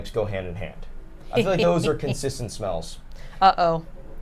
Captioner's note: snickers